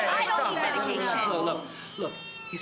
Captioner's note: overlapping chatter